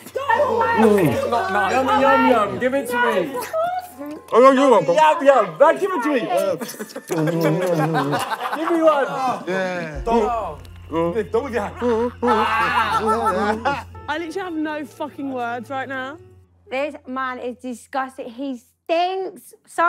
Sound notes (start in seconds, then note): 6.5 laughing; 12.0 yelling